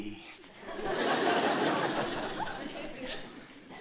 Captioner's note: laughter